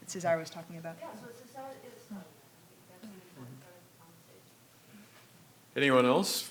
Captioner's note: speaking faintly